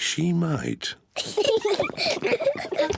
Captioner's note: both giggle